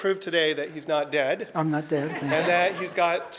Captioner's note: audience laughter